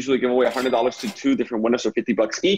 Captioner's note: cash register chiming